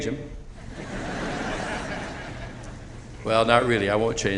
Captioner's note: laughter